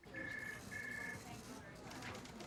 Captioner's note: phone ringing